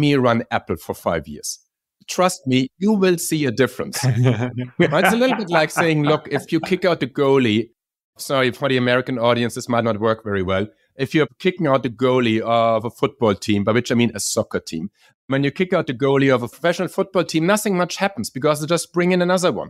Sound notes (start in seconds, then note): 4.0 laugh